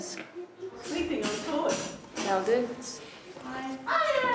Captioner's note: chatter